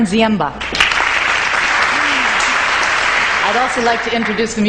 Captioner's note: audience clapping